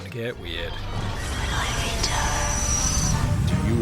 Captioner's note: spooky autogynephilia voice